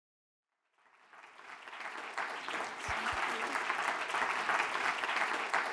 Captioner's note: audience applauding